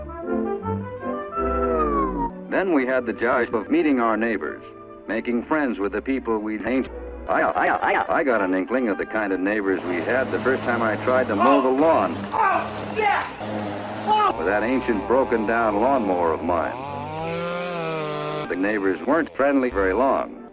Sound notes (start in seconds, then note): 12.2 Tourettes Guy yelling OH SHIT in the background; 17.2 lawnmower becomes LOUDmower